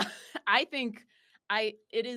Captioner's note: both laughing